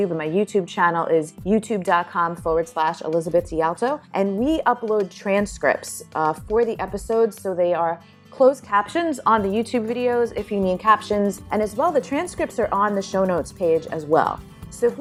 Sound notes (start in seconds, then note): none